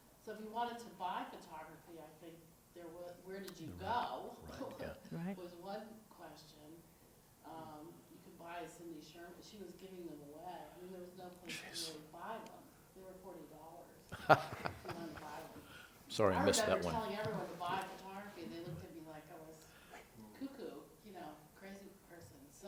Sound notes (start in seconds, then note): 14.1 laughter